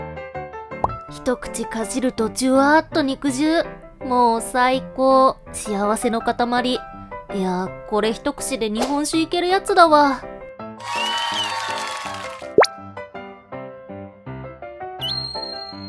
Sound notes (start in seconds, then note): 0.7 clapping